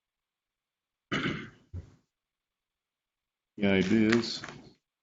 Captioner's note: clears throat